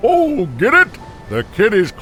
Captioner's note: Santa laughing